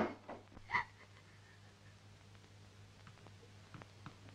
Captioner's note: crying